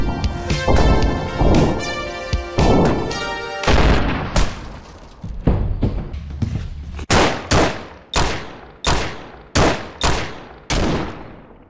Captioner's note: shotgun blast, music stops